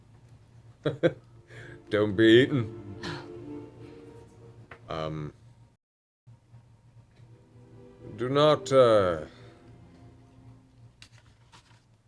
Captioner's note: laughs